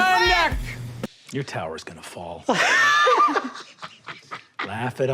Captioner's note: laughs